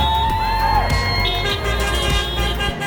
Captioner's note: crowd cheering; horns honking